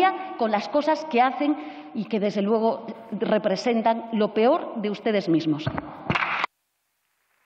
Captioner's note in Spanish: Aplausos